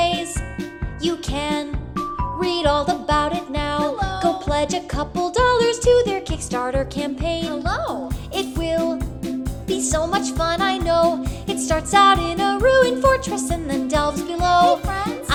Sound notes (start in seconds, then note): 0.1 ding Dong; 1.7 ding Dong